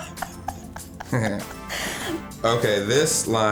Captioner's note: laughs; Adam laughs